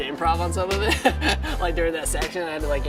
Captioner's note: laughs